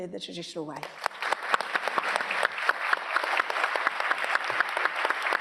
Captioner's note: audience applauding